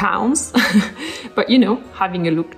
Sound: laughs

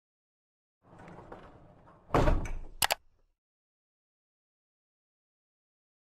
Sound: mechanical noises and mouse click

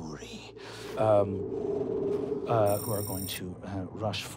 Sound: wind blowing

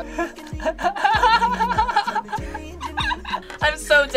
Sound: laughs

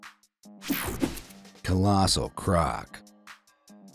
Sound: page swishing

